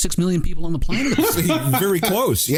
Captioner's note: laughter